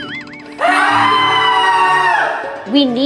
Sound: screams

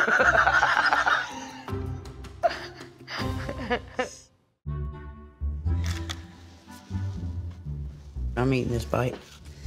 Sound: laughter

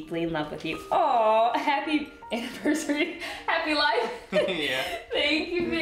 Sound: laughing

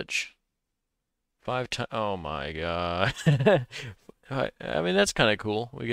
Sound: laughs

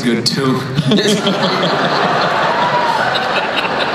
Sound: everyone laughs

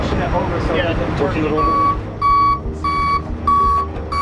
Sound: tow truck beeps

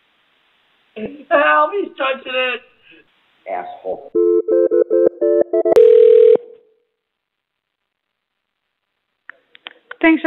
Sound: phone ringing

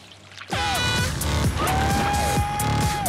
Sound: air horn honks

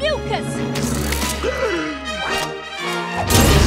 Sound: gasps; dramatic music

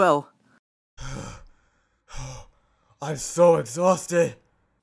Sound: sigh, sigh

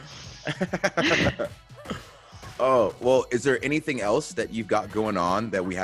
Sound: laugh

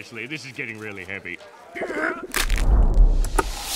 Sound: grunting

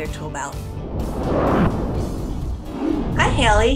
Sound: logo whooshes

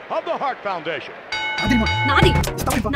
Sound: wrestling bell rings

